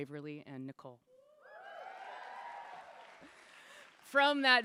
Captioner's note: cheers / Applause